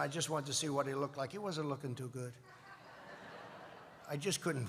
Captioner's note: laughter